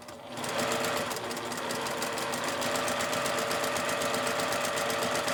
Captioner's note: sewing machine roars